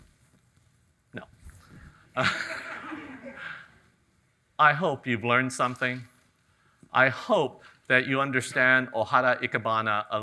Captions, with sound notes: no, (chuckles) (audience chuckles) I hope you've learned something. I hope that you understand Ohara ikebana